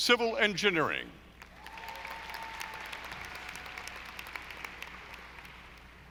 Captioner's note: audience applauding